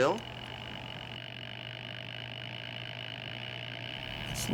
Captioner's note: whirring